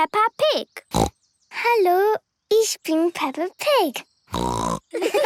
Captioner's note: snorting; snorting; laughter